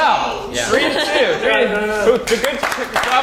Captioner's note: applause